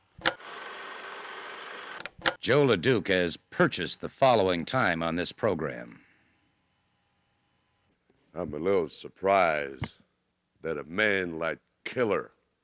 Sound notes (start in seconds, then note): 1.9 film projector clicks; 2.0 film reel ticking